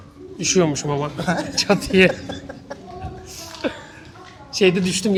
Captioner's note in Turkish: kahkaha